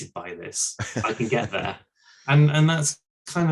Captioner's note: chuckles